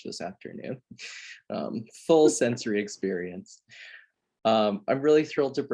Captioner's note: laughs